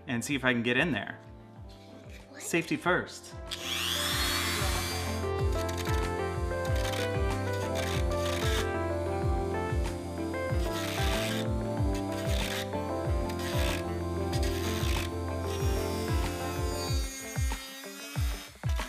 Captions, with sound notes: and see if I can get in there. Safety first. (drill turns) (gentle music)